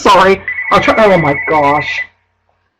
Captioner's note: phone ringing